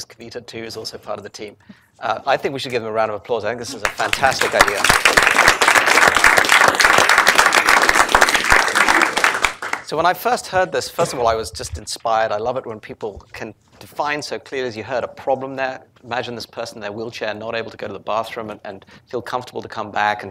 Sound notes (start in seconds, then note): 3.8 applause